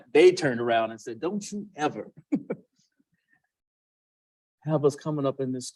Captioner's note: laughs